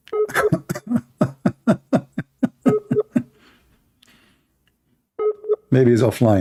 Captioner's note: Ketawa